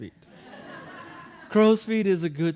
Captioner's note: audience laughing